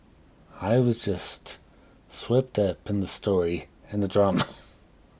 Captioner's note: coughs